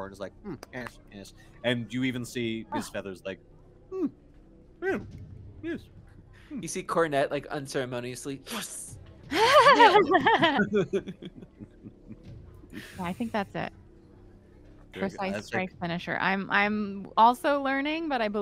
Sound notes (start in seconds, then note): 9.3 multiple chuckling